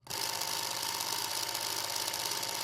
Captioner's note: film rolling